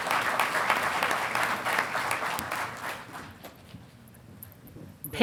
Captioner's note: audience applauding